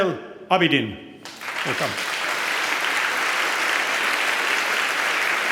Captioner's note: applause